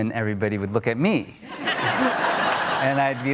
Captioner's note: audience laughter